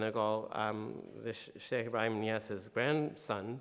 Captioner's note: speaking in foreign language